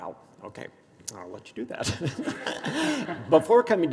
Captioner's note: laughs